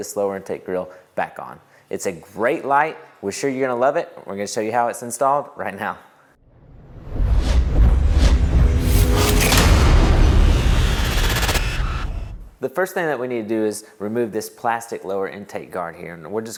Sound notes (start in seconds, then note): 6.4 sound effect